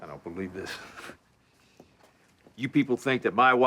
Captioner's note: scoffs